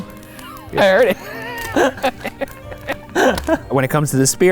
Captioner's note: all chuckling